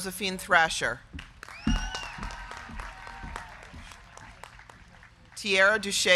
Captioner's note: crowd clapping; crowd cheering